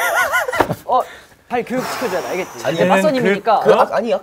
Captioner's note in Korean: 후우